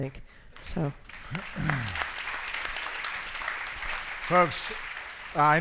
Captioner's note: audience applauds